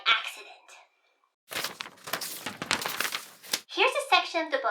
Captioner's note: page flipping